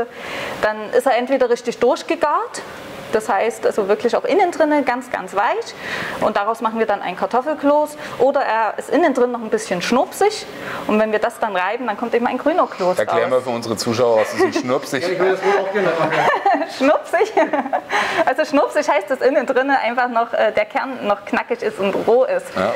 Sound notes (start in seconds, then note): 14.0 laughing